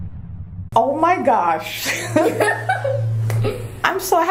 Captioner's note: laughing